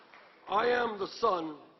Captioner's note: applause